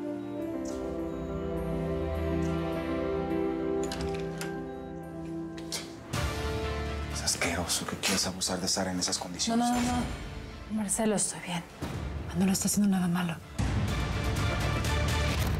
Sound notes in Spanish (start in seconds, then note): 3.7 sonido al abrir la puerta